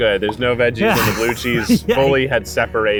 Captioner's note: laughs